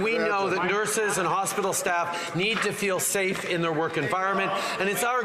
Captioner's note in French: voix de l'interprète